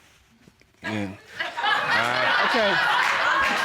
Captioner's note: audience laughing